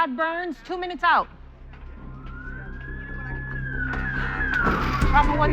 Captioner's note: sirens approaching